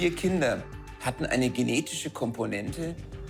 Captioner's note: speaks foreign language